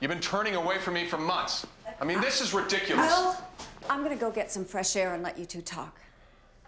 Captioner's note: none